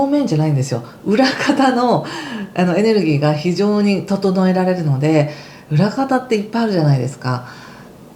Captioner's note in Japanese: 笑い